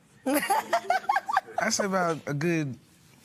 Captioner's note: laughs